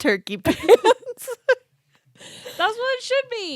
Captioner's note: both laughing